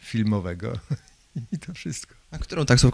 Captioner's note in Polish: śmiech